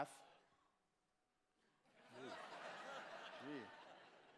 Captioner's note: laughter